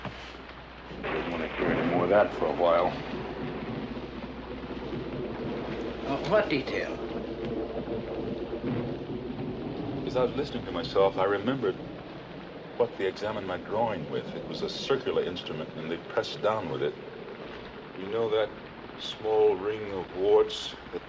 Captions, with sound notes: I don't wanna hear anymore of that for a while. (thunder rumbles) (rain patters) - What detail? - As I was listening to myself, I remembered what they examined my groin with. It was a circular instrument, and they pressed down with it. You know that small ring of warts